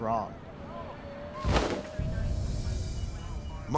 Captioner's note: thudding